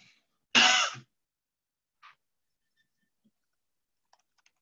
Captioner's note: person coughs